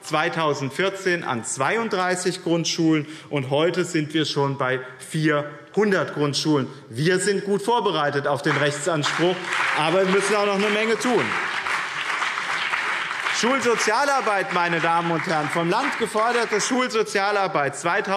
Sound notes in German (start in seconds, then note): 12.6 Beifall BÜNDNIS 90/DIE GRÜNEN und CDU